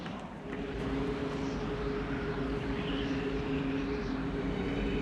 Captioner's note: wind gusting